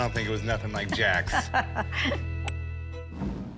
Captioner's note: laughs